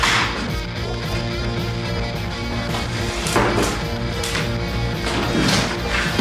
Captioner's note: laughs